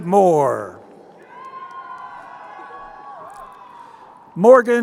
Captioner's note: crowd cheering